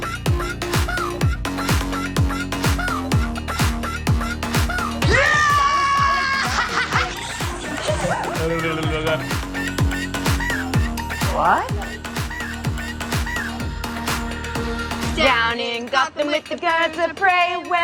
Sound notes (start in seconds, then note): 5.3 yelling; 8.5 tongue flapping; 15.5 both singing